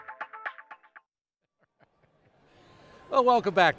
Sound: laughing

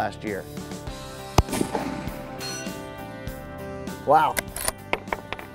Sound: gun shots ringing out

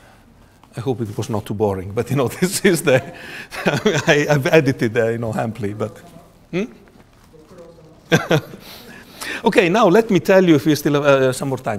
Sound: laughs

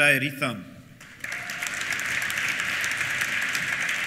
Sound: applause; cheers

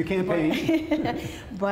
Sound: laughter

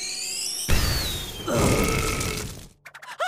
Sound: belching

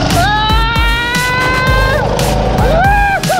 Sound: shouting

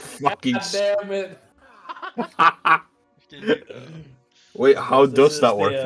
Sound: haha; hahahaha

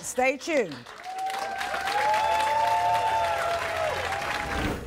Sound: audience cheering

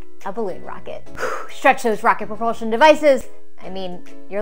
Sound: exhales

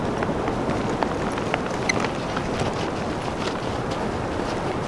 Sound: snowstorm falling; suitcase rolling

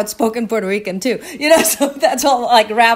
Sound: chuckling

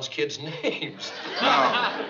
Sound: chuckles

